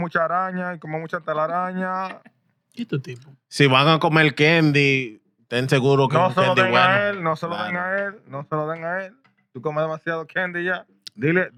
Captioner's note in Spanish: Hablando en idioma extranjero